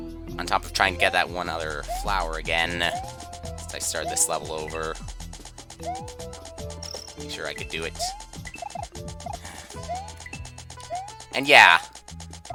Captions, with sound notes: ...on top of trying to get that one other Flower again, since I started this level over... Make sure i could do it. (*sigh*) And, yeah.